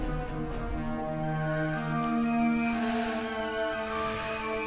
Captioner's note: snake hissing